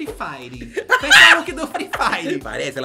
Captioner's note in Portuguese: gargalha